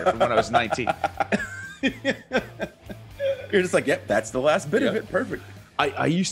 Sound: laugh

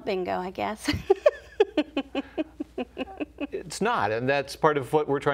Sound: laughter

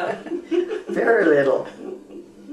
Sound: laughter

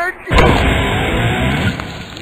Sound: grunts

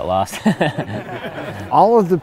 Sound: laughs

